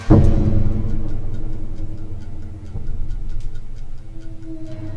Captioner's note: timer ticking